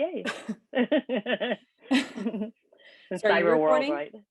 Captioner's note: both laughing